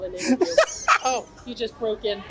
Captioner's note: laughs